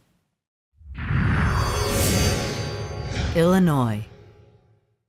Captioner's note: sound effect